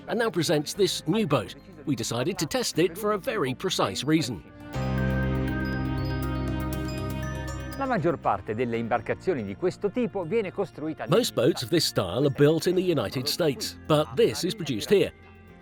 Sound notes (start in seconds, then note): 5.4 light music; 8.2 speaking foreign language